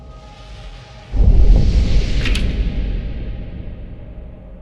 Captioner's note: loud echoing